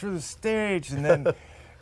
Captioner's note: laughter